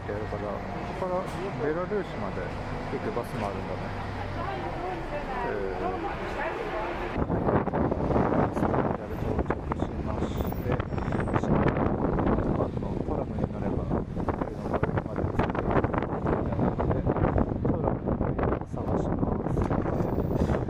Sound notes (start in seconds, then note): 6.9 strong winds